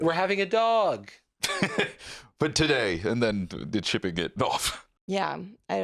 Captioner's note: laughs